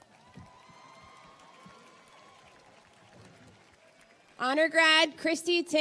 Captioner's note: audience cheers and applauds